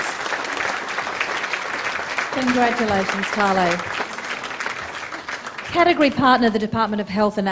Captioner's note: applause